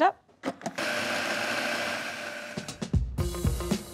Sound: food processor whirring; upbeat groove music

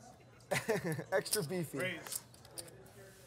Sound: laughs

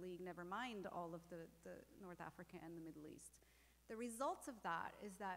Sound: none

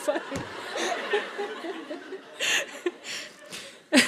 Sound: laughter

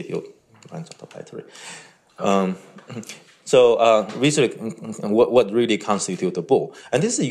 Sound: murmurs

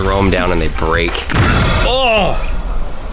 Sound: loud crunch

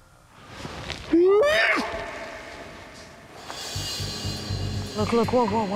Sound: whooping call

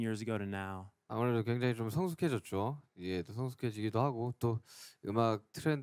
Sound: speaking in foreign language

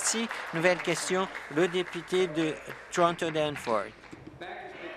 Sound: applause

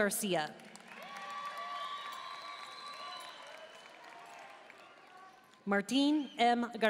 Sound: audience cheering and applauding

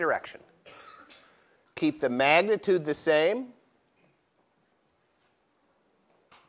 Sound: cough

